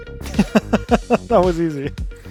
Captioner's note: laughing